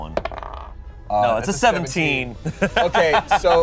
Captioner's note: laughs